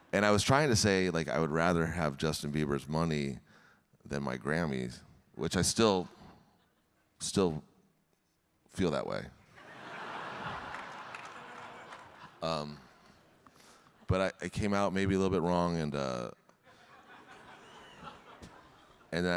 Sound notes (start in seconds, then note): 9.6 audience laughing; 10.2 audience clapping; 16.7 audience laughing